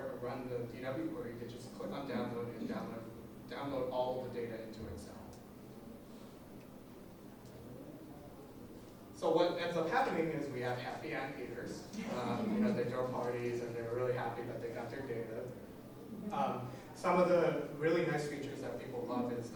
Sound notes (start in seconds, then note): 12.0 laughing